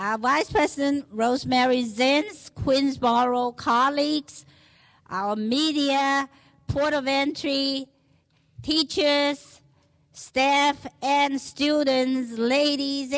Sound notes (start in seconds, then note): none